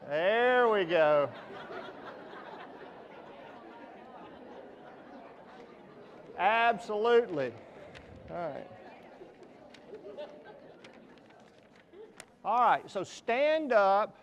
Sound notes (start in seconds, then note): 0.5 audience laughs